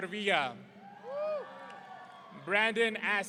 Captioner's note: audience cheering